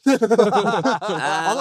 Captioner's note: laughing